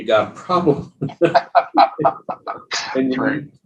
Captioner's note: laughing